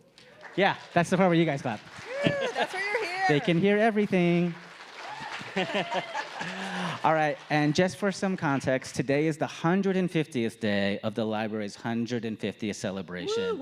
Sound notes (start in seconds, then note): 2.7 audience applauding; 5.1 laughing